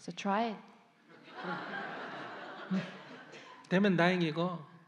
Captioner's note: audience Laughter